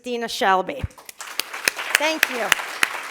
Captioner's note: applause